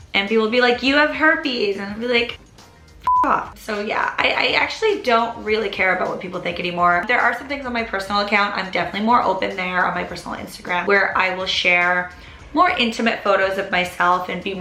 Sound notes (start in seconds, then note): 3.0 beep